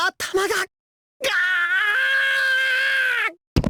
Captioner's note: pained groan